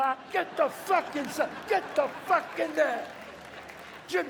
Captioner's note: audience cheers